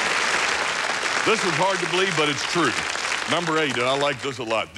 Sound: applause

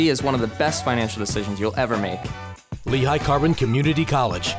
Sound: voiceover

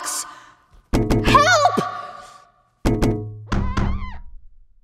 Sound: banging

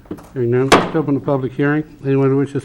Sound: gavel banging

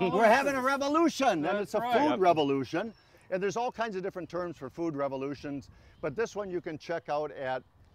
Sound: none

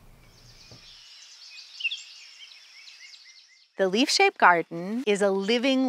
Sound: birds chirping

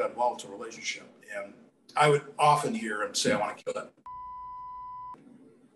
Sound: beep

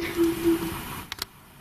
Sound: muffled synthesised noise

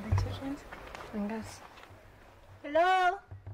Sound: speaking native language

